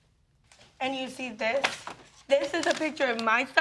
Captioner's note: paper rustling